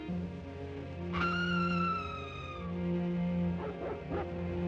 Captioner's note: eerie screaming sound; dog barks